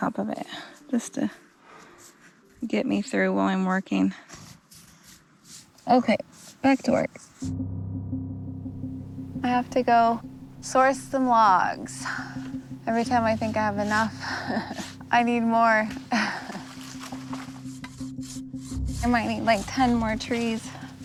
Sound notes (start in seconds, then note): 7.3 tense music plays; 14.2 chuckles; 16.2 chuckles